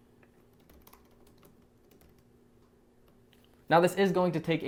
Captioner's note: keyboard clicking